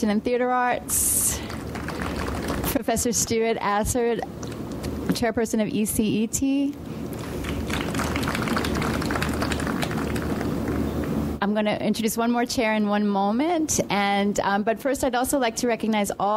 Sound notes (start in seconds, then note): 7.1 audience applauds